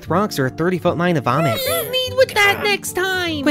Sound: sound of wretching, Amelia and Guk screeching in disgust

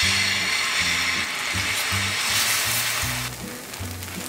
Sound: the sound of frying pancakes is fantastic!

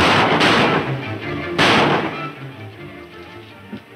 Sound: loud gunshots; fast music increasing tempo; footsteps on wood

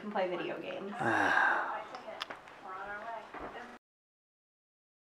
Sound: sighs

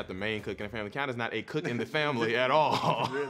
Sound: laughs

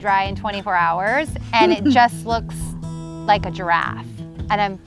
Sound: mom laughs

